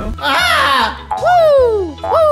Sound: DJ screaming

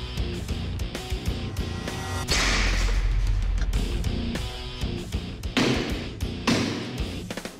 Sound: blade impact sounds

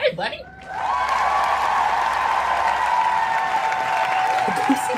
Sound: cheering

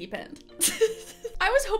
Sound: chuckling

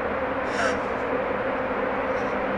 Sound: gasps

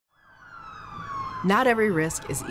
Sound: sirens blaring

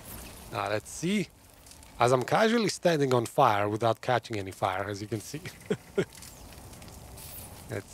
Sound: laughs

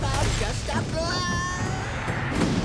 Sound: screaming

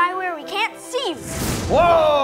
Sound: magic explosion

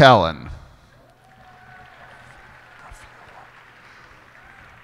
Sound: cheers and applause

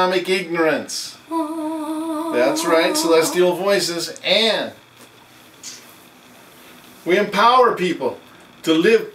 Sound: bad celestial voices sound

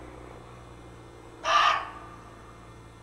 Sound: barks

